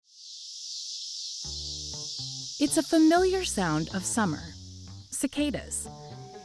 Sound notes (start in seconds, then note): 0.0 cicadas buzzing; 0.8 light jazz music